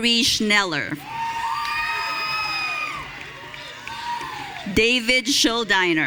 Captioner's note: audience cheering